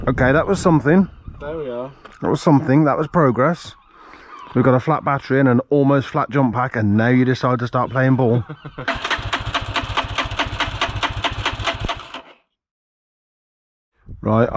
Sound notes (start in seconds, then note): 8.8 engine turning